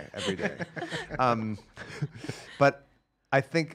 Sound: laughing

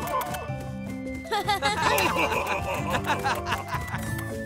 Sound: laughing

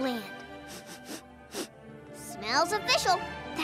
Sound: sniffs

